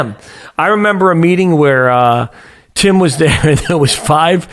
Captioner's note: chuckles